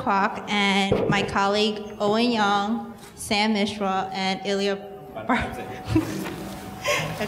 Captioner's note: chuckles